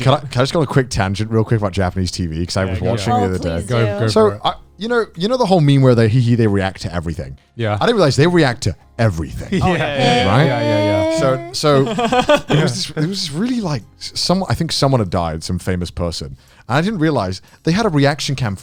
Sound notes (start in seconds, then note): 10.6 speaking Japanese; 11.9 guys laughing